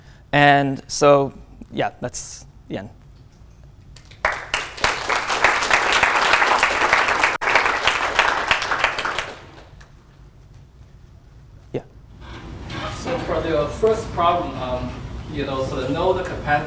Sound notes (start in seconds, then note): 4.0 applause